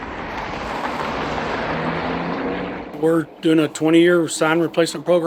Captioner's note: traffic noise